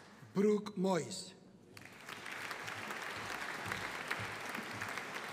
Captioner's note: audience applauding